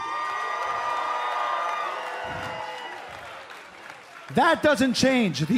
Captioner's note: cheers and applause